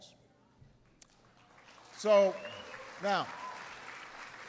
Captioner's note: applause